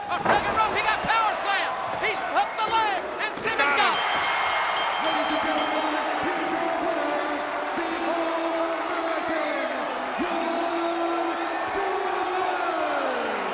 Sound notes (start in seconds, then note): 3.8 bell ringing